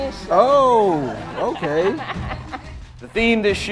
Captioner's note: mom laughing